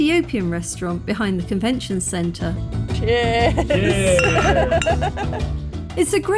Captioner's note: laughter